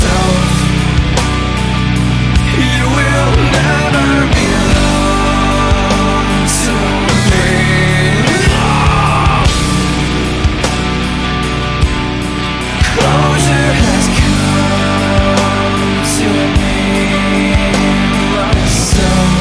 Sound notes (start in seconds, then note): 8.4 screams